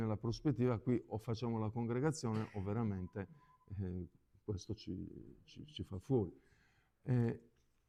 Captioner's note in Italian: schiarire la voce